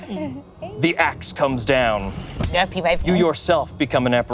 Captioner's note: axe thudding